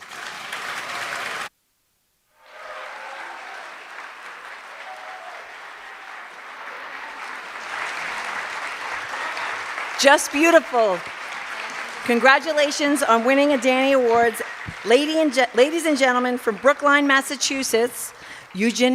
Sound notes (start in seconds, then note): 2.2 cheers and applause